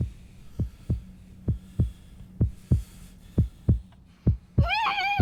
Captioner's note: breathing sounds